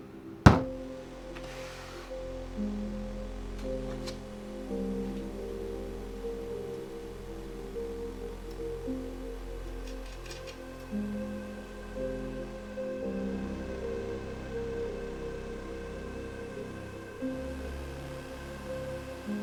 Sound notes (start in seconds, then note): 0.4 bottle banging on table; 3.0 tense music